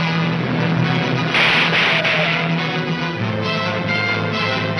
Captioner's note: gunshots banging